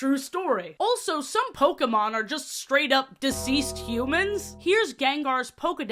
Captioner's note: bell bong sfx